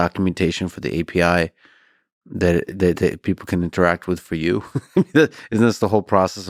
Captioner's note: laughs